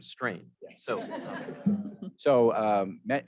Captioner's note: audience giggling